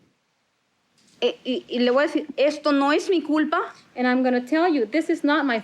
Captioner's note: spanish continues